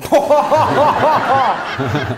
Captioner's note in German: Gelächter